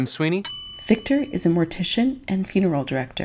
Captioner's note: bell dinging